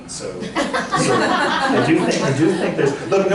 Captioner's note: laughter